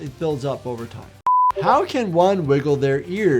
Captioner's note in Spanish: pitido de pantalla